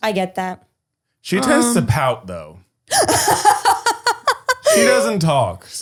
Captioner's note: laughter